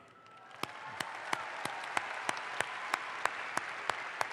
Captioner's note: audience applauds